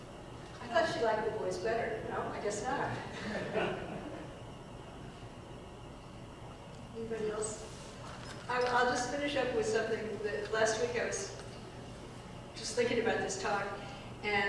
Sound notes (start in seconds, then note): 3.0 audience laughing